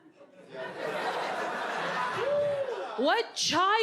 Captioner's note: audience muttering, laughing